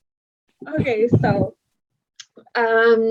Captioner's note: laughs; laughs